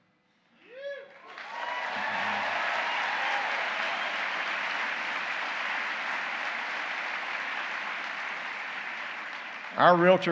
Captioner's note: applause